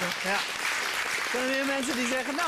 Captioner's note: applause